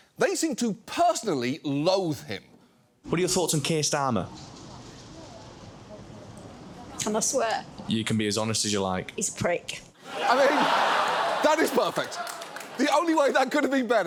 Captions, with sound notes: They seem to personally loathe him. What are your thoughts on Keir Starmer? Can I swear? You can be as honest as you like. He's a prick. -(AUDIENCE LAUGHS) -I mean... that is perfect. The only way that could have been better